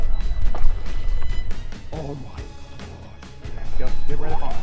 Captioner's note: water splashes